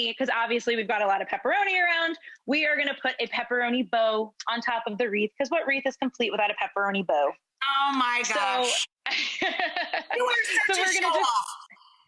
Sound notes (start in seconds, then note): 9.6 laughs